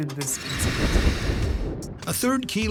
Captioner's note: hissing sound